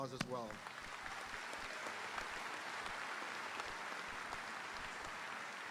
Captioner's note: audience applauding; audience cheering